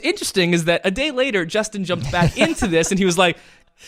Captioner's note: laughs